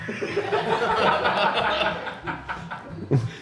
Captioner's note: lively jazz music; crew laughing